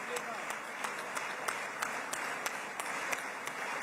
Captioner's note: applause